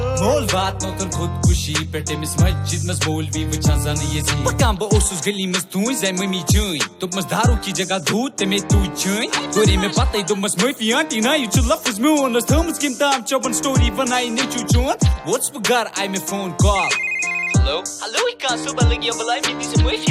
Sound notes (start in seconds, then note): 16.7 phone rings